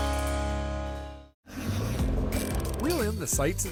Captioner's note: line reeling